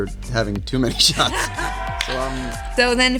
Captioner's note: cheering track plays